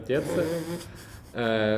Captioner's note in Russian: смеётся